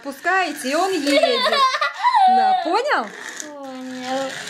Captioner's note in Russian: детский смех